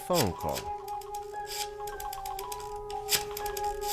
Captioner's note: rotary phone dialing